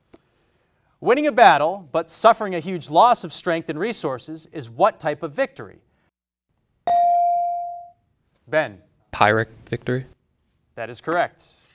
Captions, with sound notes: Winning a battle, but suffering a huge loss of strength and resources is what type of victory? (bell rings) Ben? - Pyrrhic victory. - That is correct.